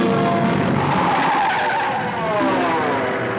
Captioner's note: tires squeal; suspenseful music